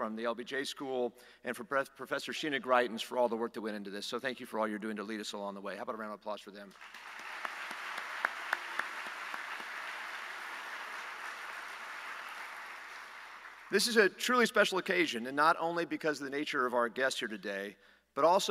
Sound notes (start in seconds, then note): 12.6 applause